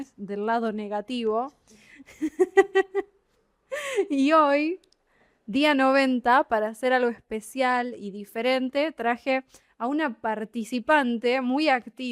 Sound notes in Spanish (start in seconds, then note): 2.0 risas